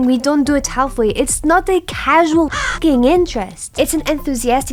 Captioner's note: crow